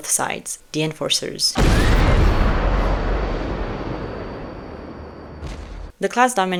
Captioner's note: explosion noise